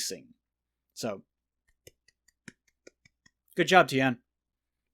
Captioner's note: sarcastic clapping